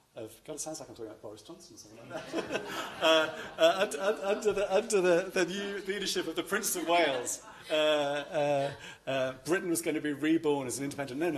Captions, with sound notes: of sounds like I'm Senator Boris Johnson in some way. [laughter] Under the new leadership the Prince of Wales, Britain was going to be reborn as an independent--